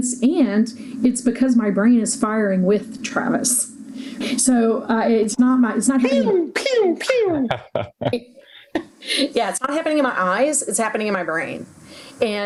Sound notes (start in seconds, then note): 6.0 imitating pinging sounds; 6.9 laughing